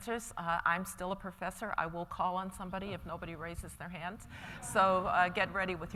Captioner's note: laughter